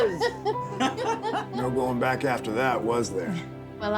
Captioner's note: laughter